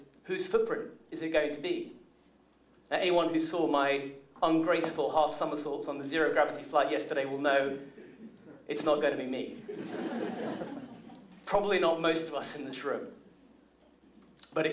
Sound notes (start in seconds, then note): 9.6 laughter